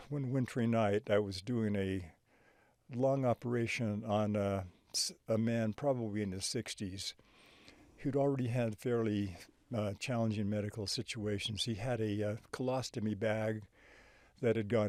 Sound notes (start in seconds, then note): none